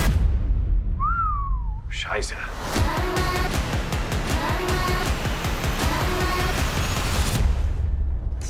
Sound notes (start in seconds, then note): 0.9 whistles; 2.4 dramatic music